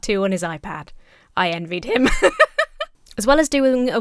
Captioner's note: laughs